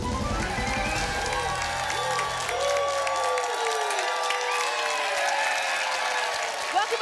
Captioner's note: applause and cheering